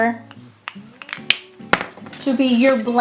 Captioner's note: markers clicking